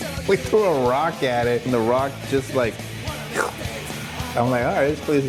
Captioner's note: imitates slurping